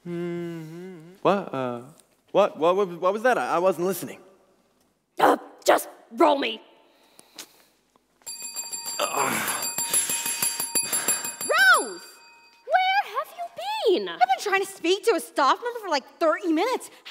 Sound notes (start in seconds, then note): 8.2 a bell rings repeatedly